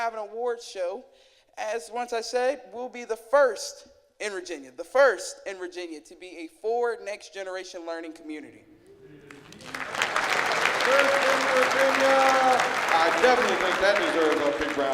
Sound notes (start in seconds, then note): 9.2 clapping